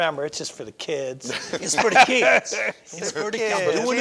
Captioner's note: all laugh